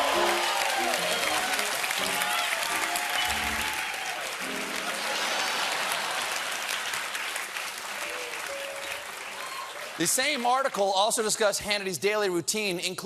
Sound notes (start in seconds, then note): 1.7 cheers and applause; 1.7 piano riff